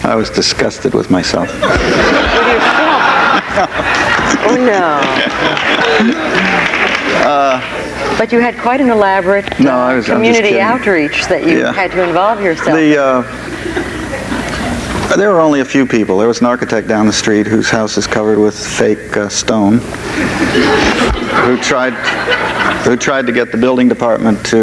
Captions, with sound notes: - I was disgusted with myself. (audience laughs loudly) - With yourself? (Frank laughs) No. (audience laughs and claps) But you had quite an elaborate-- - No I'm just kidding. - Community outreach That you had to involve yourself. - The, there were only a few people. There was an architect down the street whose house is covered with fake stone. (audience laughs) Who tried to get the building department